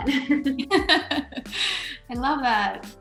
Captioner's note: laughs